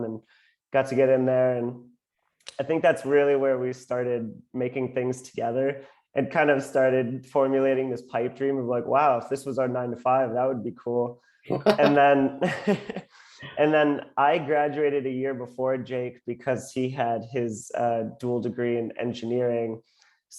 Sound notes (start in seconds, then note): 11.5 laughs